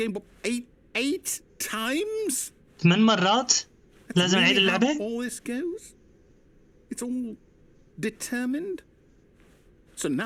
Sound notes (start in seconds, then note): none